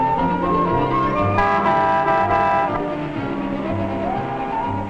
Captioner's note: horn honking